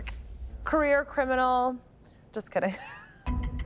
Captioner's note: laughs